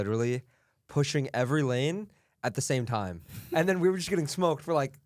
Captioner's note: laughs